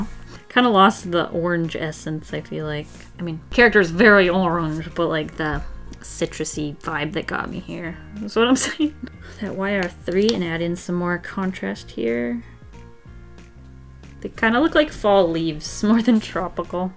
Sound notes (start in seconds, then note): 8.5 giggles